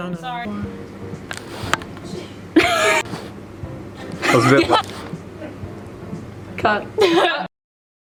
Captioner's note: laughs